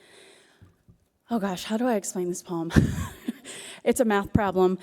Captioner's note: chuckles